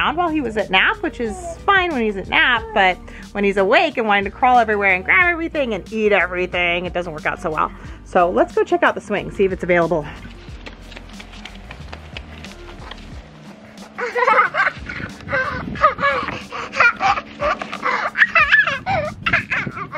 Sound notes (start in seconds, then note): 10.0 footsteps clacking; 13.6 laughing